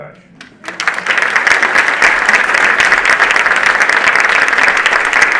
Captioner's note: audience applauding